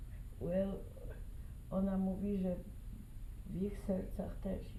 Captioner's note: speaking polish